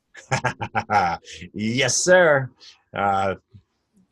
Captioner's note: laughs